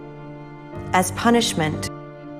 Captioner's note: voiceover